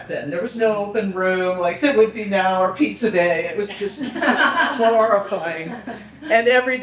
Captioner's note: people laughing